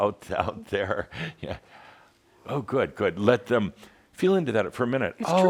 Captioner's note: Adamus chuckles